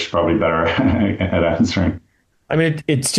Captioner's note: laughs